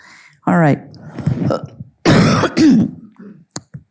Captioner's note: coughing